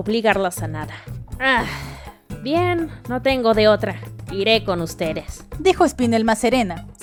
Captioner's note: sigh